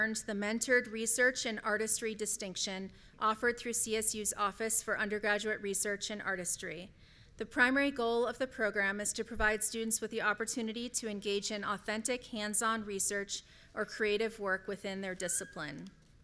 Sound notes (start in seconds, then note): none